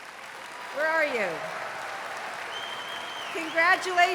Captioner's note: cheering, applause